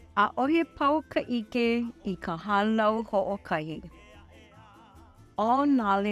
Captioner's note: narrator speaking in Hawaiian language